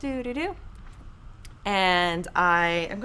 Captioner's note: hums